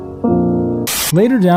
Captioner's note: sad music; TV static